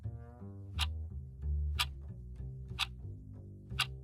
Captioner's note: clock ticking